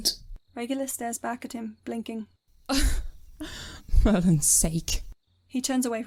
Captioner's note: Regulus laughs coldly